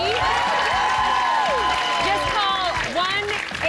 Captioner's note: cheers and applause